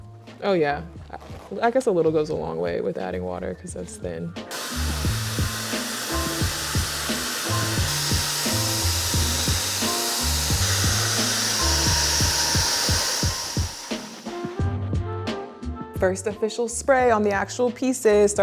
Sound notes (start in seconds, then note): 6.2 machine whirling